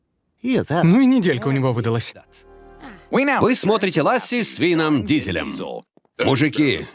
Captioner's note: sigighs